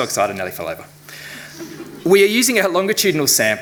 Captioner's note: audience chuckling